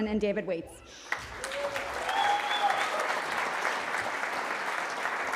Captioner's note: cheering